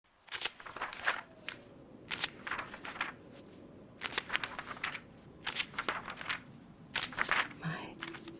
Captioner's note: pages turning, wind and rain in the distance